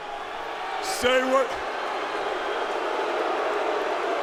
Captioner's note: crowd boos